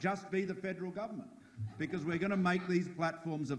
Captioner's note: audience laughs